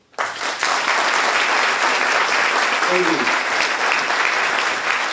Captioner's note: audience Applause